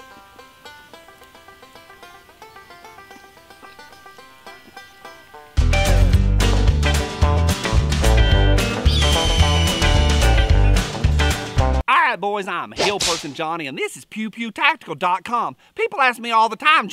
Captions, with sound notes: (upbeat banjo music) (upbeat country music) (eagle cries) - All right boys, I'm hill person Johnny and this is pewpewtactical.com. People ask me all the time,